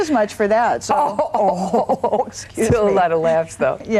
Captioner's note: laughs